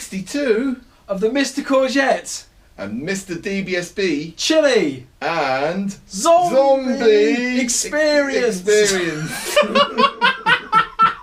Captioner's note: manic laughter!